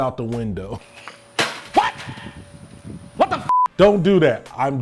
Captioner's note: voiceover